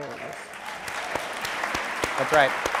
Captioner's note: audience applauding